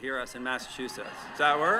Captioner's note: applause